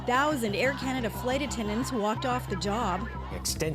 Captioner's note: chants